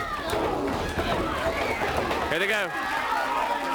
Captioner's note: crowd chatter